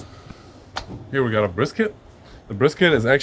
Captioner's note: brisket thuds